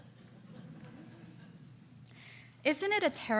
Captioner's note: audience laughs